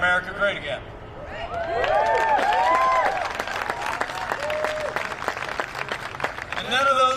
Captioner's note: cheering and applause